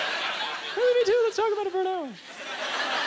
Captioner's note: audience laughter